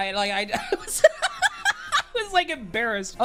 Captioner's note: laughing